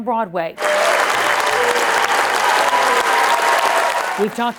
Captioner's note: audience cheering